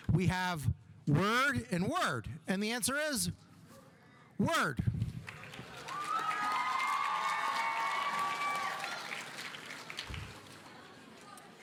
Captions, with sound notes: We have word and word and the answer is word. (audience applauding) (audience cheering)